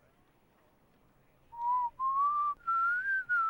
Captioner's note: whistling